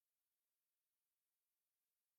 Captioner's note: none